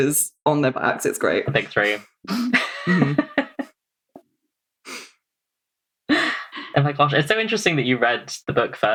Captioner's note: laughs